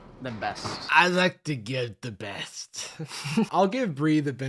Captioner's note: slurring; laughs